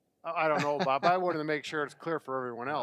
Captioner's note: laughing